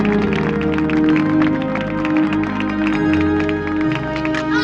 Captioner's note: applause